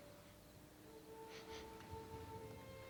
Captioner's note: sniffs